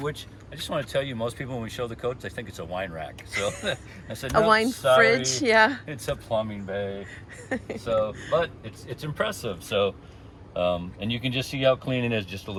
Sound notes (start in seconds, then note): 7.2 laughing